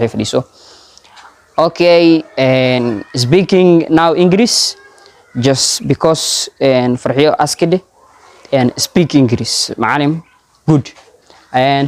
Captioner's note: starts speaking in English